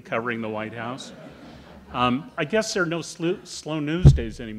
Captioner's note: audience laughing